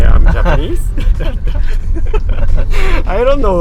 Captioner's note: laughing